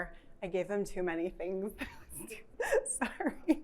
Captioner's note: laughs